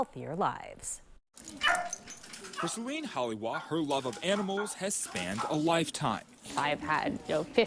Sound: barking

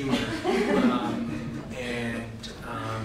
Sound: laughter

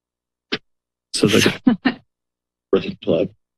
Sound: laughter

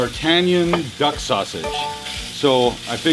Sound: beeping sound

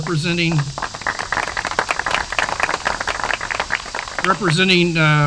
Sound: applause

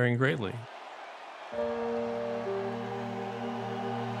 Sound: crowd cheering

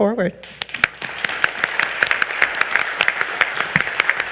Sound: all clapping

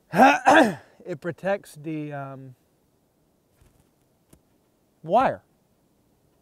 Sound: clearing throat

